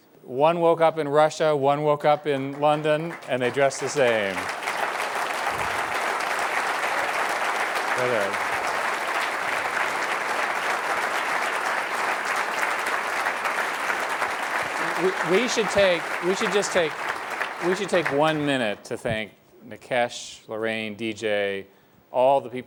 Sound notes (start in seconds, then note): 8.9 applause